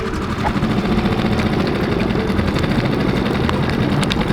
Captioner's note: engine revving